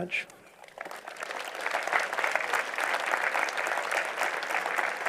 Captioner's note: applause